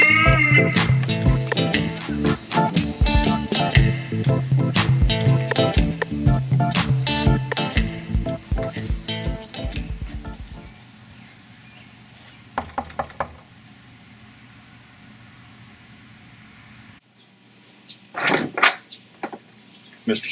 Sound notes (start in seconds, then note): 12.9 knocking on door; 18.2 door clatters opens